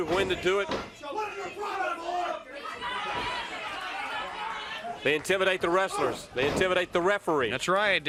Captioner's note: crowd cheering